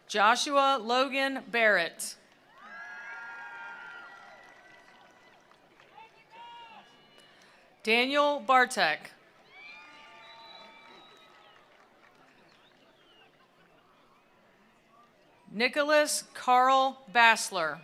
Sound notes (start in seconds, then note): 2.4 attendees applauding; 2.4 attendees cheering; 9.2 attendees applauding; 9.3 attendees cheering